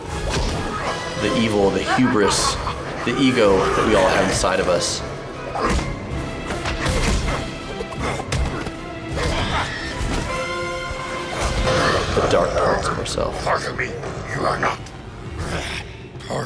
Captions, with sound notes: the evil of the hubris, the ego we all have inside of us. (fighters grunting) (dramatic orchestral music) The dark parts of ourselves. - Part of me you are not.